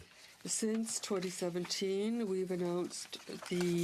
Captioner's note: speaking French